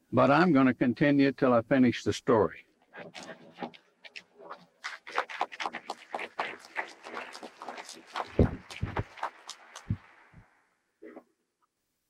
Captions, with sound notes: But I'm gonna continue until I finish the story. (audience applauds)